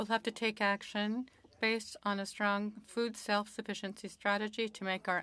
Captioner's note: speaking French